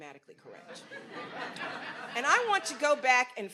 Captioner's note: audience laughs